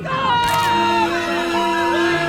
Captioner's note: screaming